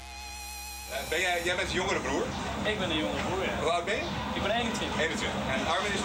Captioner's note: speaking in foreign language